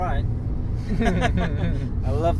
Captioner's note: both laugh